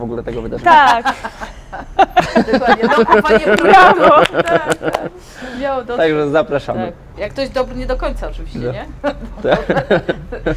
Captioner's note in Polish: śmiech